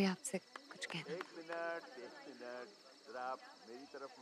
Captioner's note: Man over mike